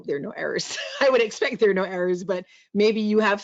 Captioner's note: laughs